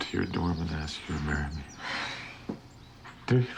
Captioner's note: sighs